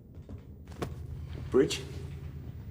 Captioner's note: taps